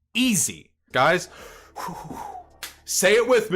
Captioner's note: deep breath